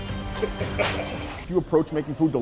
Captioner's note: laughing